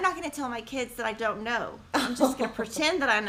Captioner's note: laughing